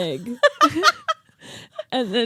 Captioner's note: laughing